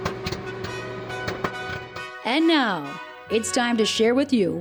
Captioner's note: popcorn popping; trumpets sounding